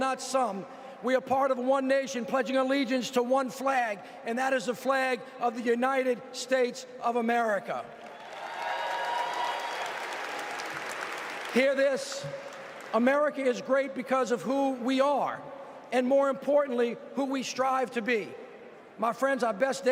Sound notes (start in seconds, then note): 12.4 applause